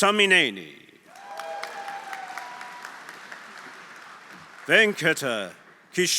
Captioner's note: audience cheering; audience applauding